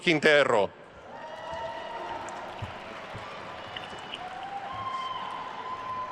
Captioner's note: attendees cheering and applauding